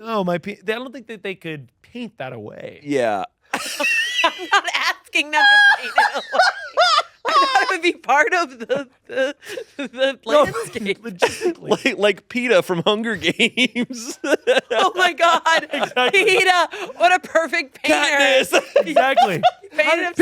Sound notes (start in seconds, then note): 3.6 laughs; 13.1 laughs